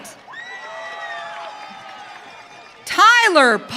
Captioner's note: audience cheering